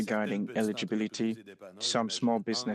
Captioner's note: speaking French